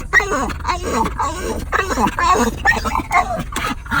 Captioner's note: dog barking